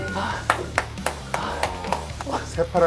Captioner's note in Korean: 박수